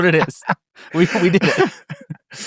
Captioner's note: laugh